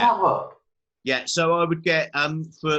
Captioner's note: murmurs